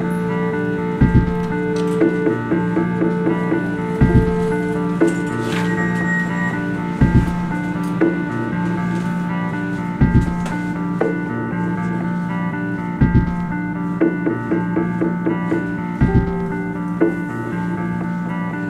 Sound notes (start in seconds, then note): 2.9 elevator door; 13.0 footsteps